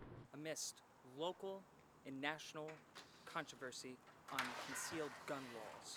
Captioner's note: TV report in background